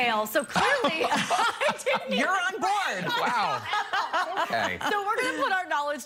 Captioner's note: laughter